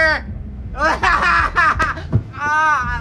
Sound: laughs

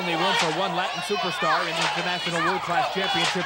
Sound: crowd yelling

